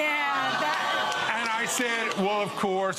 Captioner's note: audience groans